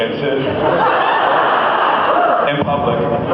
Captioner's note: laughs